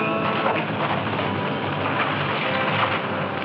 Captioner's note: tires scraping